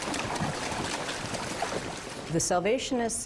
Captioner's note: horses trotting